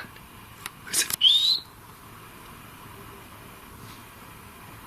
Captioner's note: whistling